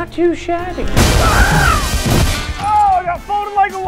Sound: screams

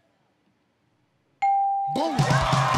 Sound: ding; cheers and applause

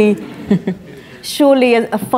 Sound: laughter

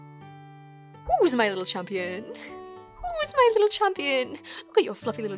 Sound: speaking in a cutesy voice

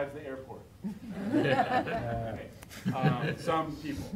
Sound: laughing

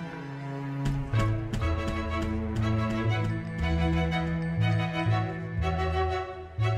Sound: tense dramatic music; ceremonious music; footsteps thumping

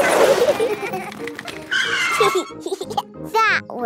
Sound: giggling; brakes squealing

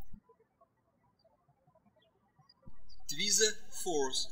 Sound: birds chirping

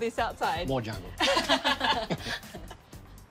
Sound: all laugh

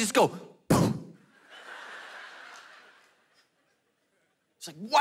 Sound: congregation laughing

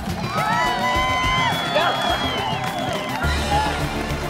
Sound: Coach Angela cheers

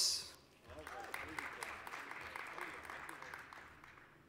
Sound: applause

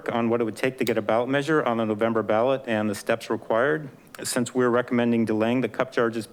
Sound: none

